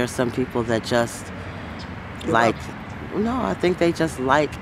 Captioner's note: murmurs